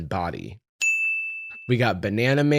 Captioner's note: ting!